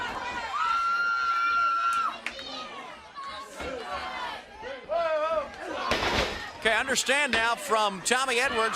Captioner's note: crowd cheering